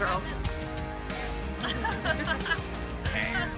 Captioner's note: laughing